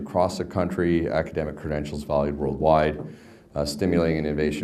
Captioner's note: none